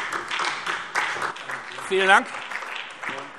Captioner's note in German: Beifall SPD